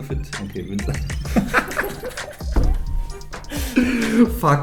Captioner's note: both laughing